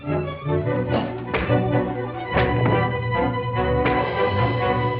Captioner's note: punch thuds